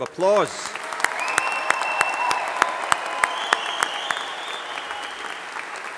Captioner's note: audience applauding and cheering